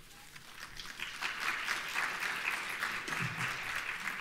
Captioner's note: applauding